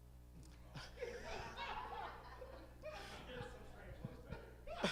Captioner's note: all laughing